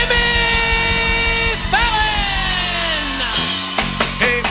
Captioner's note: cheers and applause